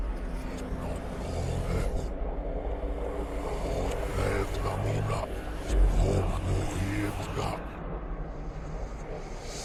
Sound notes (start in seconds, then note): 4.6 demonic whispering